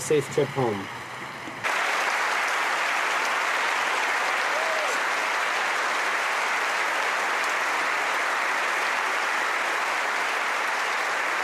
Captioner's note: applause